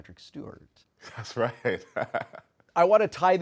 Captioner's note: laughing